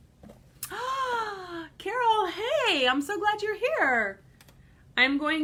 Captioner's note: gasps